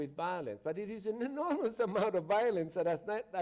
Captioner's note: chuckles